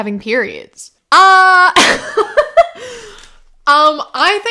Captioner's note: laughter